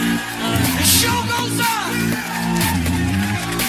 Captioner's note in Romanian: Aplauze